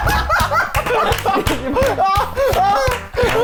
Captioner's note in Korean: 박장대소; 숨 넘어감